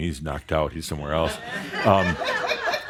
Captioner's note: laughter